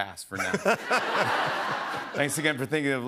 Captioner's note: laughter